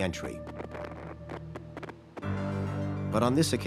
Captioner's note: radio static popping